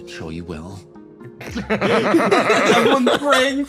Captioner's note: laughs